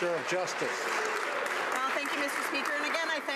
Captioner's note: some Applause